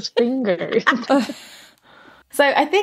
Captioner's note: laughing